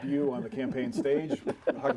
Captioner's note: laughter